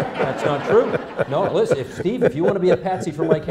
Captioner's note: laughter